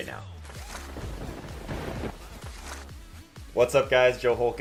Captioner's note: thunder cracking